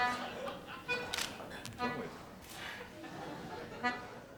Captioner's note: beeping